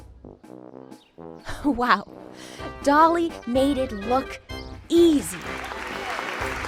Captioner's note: applause